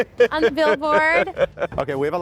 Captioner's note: laughs